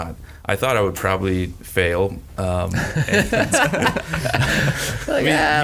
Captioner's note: laughs